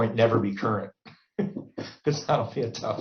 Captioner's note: laughs